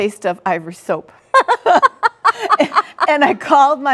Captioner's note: laughing